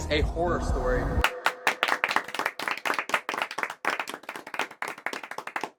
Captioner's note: imaginary audience clapping